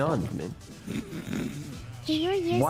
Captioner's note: fake Snoring